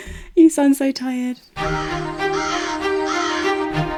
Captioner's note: crows cawing; upbeat music